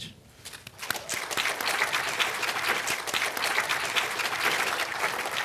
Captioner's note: audience clapping